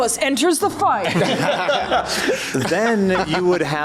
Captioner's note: laughs